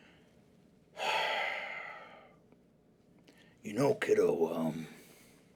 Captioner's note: sighs